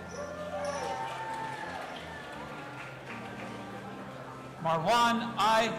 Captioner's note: audience applauding and cheering